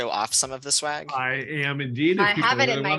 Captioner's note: laughter